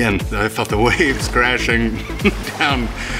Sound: laughing

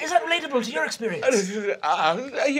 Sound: stuttering

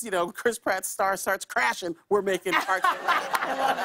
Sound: laughter

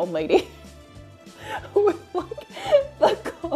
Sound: laughs

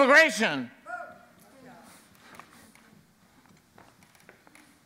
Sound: man shouts

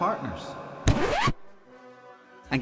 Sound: record scratch

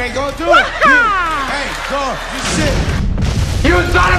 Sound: boom!!

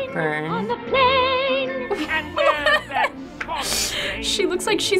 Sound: laughing

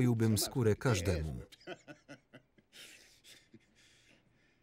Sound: laughing

